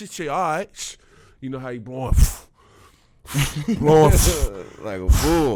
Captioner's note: blows air